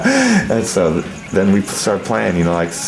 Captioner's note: laughing